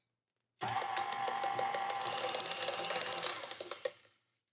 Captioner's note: mixer whirring